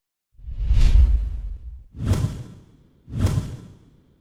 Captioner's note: whooshing